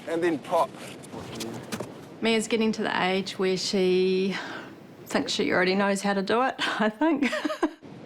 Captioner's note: chuckles